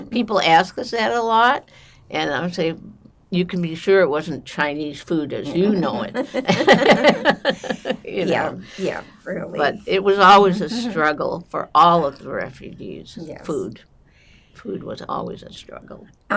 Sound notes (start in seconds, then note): 5.5 laughing